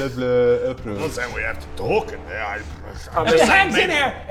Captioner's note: pfft